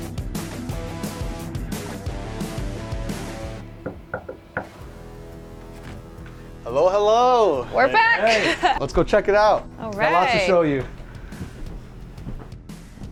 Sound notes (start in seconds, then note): 0.1 upbeat music continues; 3.6 knocking